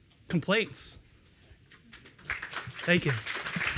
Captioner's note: applause